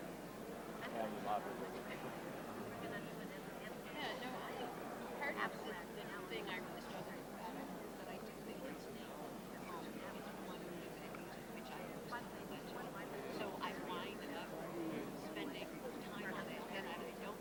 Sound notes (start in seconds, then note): 9.5 overlapping chatter